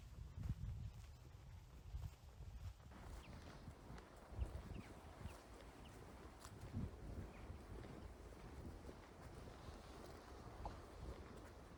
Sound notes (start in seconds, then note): 4.2 birdsong